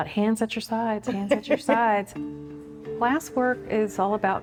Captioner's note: chuckles